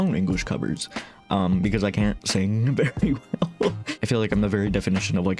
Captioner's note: laughing